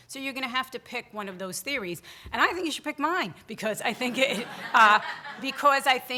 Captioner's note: audience laughter